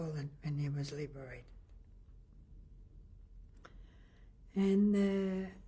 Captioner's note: pauses for 3 seconds